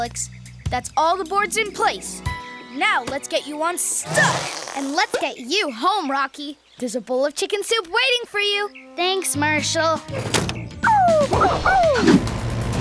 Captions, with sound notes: That's all the boards in place. Now let's get you unstuck! And let's get you home, Rocky. There's a bowl of chicken soup waiting for you. Thanks Marshall, [howling]